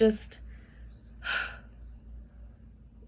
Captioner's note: exhales emphatically